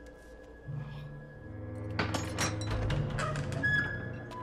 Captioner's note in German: Schlüsselrasseln im Schloss